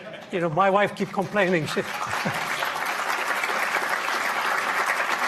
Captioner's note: audience applauding